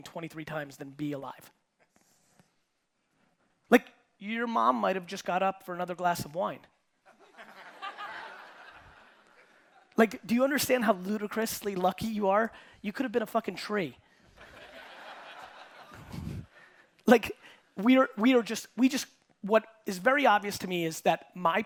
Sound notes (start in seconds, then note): 7.2 audience laughing; 14.4 audience laughing